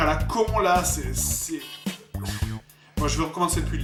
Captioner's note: sigh